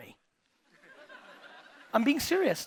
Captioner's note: audience laughing